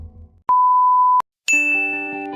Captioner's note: beeping sound